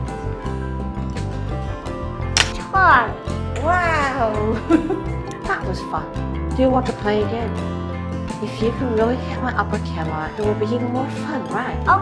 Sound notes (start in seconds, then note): 4.5 laughs